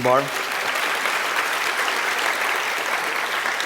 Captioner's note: applause